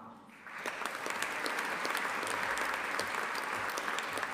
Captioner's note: audience applauding